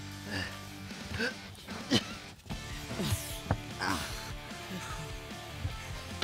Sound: grunting

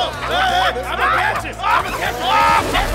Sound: stoned laughter; whoosh

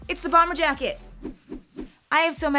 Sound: hands whooshing

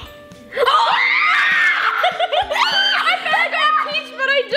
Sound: screaming

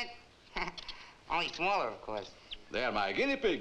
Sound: laughs

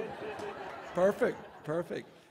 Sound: audience laughs

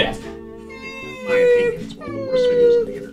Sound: cries

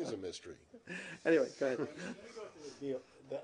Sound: laughter

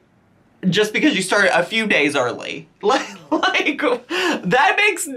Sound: laughs

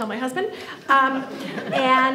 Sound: audience laughs

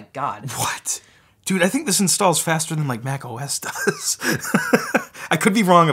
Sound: laughs

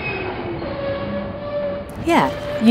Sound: sound of subway braking

